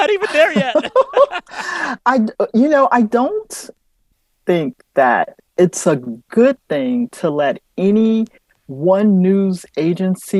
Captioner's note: laughter